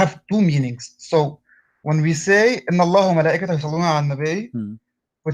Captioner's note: arabic words